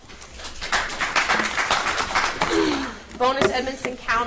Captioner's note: audience applauds